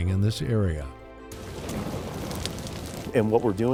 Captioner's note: sound of burning fuel